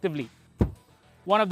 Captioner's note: thud